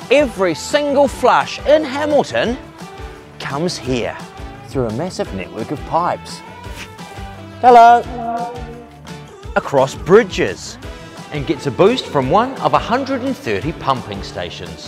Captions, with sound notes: Every single flush in Hamilton comes here through a massive network of pipes Hello! (echo) across bridges and gets a boost from 1 of 130 pumping stations